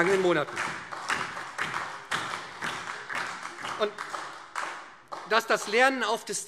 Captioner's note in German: Beifall